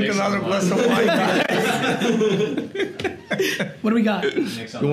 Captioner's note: group laughter